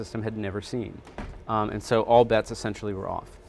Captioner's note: door slamming